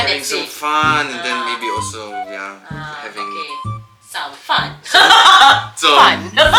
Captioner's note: laugh